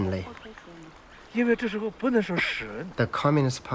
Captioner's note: mandarin